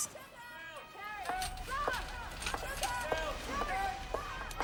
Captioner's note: staff shouting